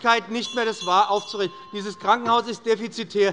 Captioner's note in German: Unruhe bei der SPD und der LINKEN - Glockenzeichen des Präsidenten